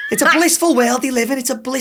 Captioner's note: laughing